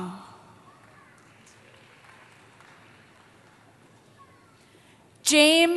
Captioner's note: applause